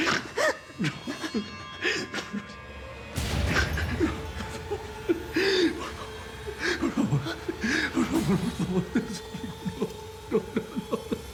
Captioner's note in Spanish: ambos sollozan